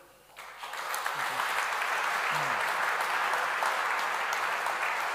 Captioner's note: audience clapping